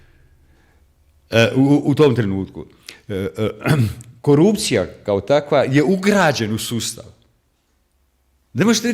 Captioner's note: coughs